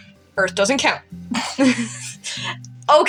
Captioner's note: chuckle; chortle